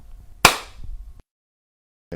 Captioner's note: clap